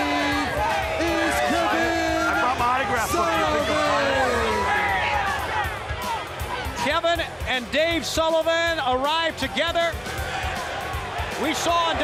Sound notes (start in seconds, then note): 3.3 crowd chatter